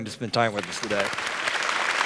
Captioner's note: applause